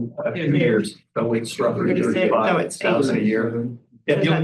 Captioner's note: overlapping chatter